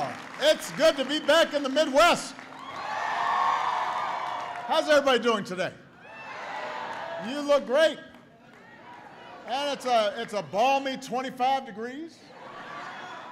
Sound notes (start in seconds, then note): 8.4 applause; 13.1 laughter